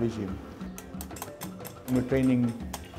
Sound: tapping

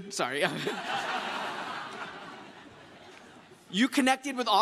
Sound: crowd laughs

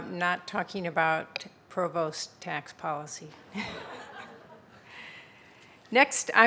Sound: audience laughing

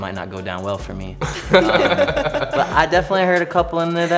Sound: laugh

